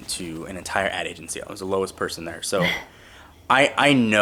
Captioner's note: laughs